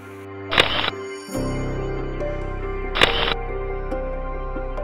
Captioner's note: camera clicking